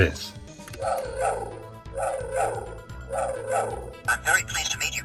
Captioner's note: whirring sounds